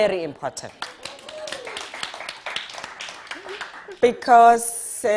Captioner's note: audience applauding